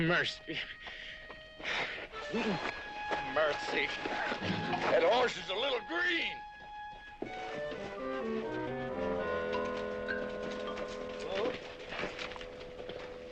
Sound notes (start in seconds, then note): 1.6 panting